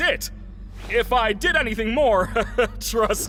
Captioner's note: laughs nervously